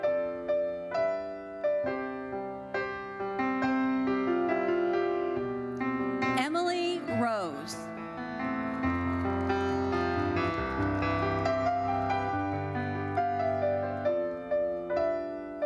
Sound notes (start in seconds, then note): 1.6 gentle uplifting music continues; 8.8 audience applauding; 11.3 gentle uplifting music continues